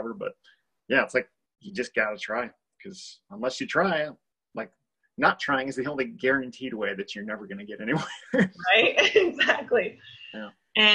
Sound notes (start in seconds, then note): 8.5 laughs